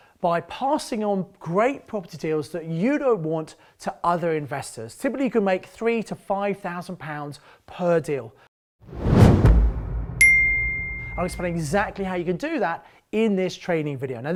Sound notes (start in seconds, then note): 8.8 logo whooshing; 10.2 logo chiming